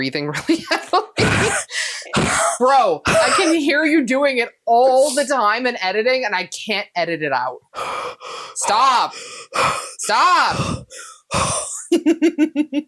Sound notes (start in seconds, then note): 7.7 obnoxiously heavy breathing